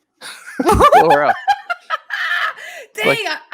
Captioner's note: laughs